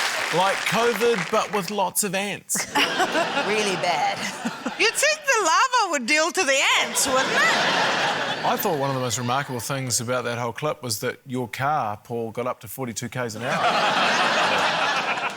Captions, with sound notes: - 'Like COVID but with lots of ants?' (LAUGHTER) - Really bad. (CHUCKLES) - You'd think the lava would deal to the ants, wouldn't it? - I thought one of the most remarkable things about that whole clip was that your car, Paul, got up to 42 Ks an hour. (LAUGHTER)